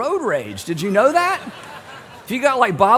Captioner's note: laughter